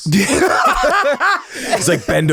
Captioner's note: all laugh